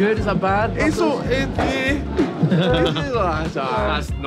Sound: stammering

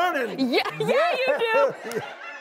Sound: laughing

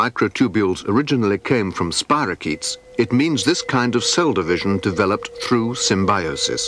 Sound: none

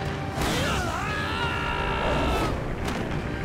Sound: screaming

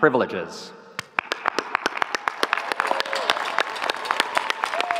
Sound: audience cheering

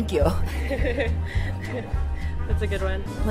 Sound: laughing

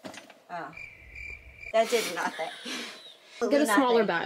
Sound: crickets chirping

